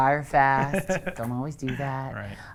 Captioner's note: laughs